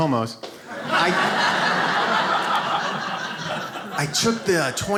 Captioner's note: audience laughs